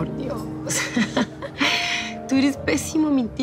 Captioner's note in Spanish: Risas